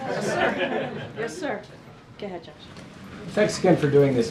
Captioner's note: laughter